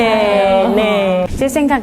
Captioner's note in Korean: 감탄